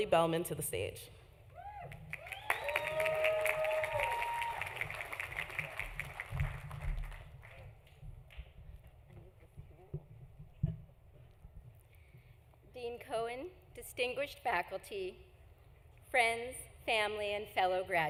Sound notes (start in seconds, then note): 0.0 applause; 0.0 cheering; 3.7 applause; 3.7 cheering